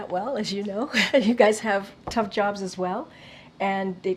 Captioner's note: laughs